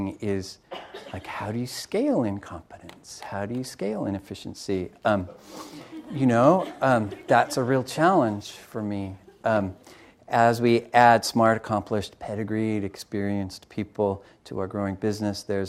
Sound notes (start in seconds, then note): 5.2 crowd laughing